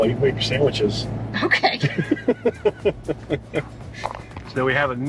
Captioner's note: laughs